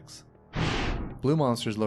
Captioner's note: woosh